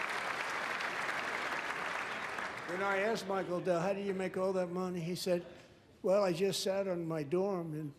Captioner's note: applause